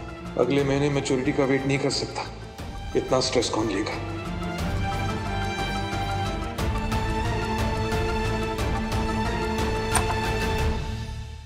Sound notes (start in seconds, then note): 4.2 pensive music playing; 9.8 door opens